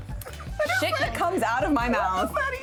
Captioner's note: laughing